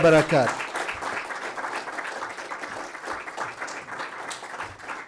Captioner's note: applause; applause continues